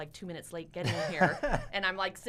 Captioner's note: laughs